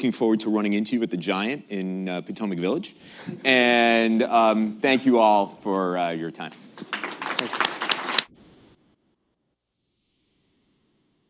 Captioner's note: applause